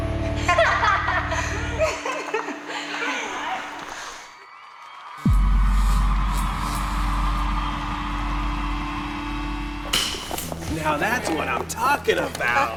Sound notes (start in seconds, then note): 0.4 laughs outrageously; 4.3 applause; 9.5 clapper clap